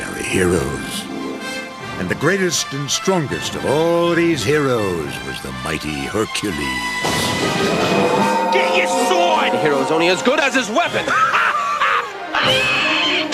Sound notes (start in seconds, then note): 7.5 thunder Rumbling